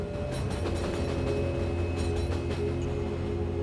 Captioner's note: train